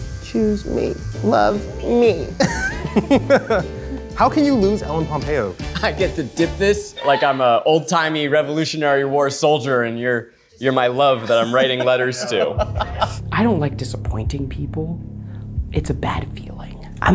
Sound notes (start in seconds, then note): 12.8 laughing